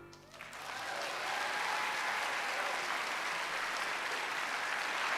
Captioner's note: applause